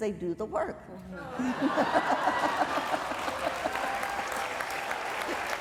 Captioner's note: applause